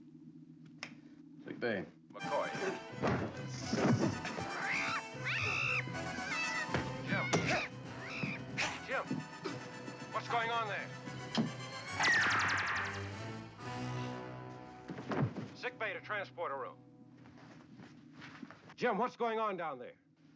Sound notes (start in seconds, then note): 1.5 over intercom; 3.1 action theme playing; 4.3 yowls